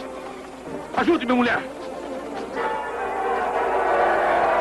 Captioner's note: cheering